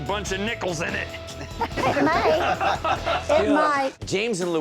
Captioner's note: laughing